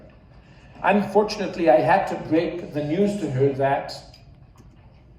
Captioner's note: audience laughs